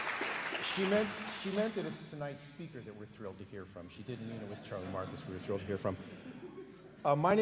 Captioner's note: applause